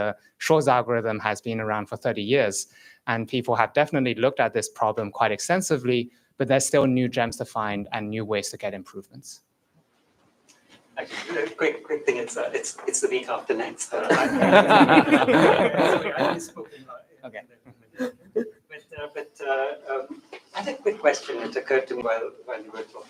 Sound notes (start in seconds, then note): 14.0 laughter